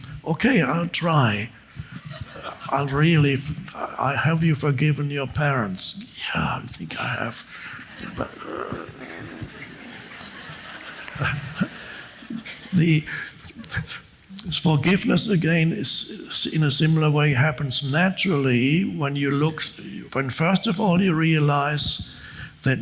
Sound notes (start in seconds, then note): 1.8 audience chuckles; 7.8 groans; 10.0 audience laughs